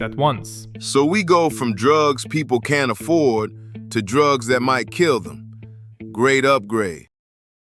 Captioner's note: flatly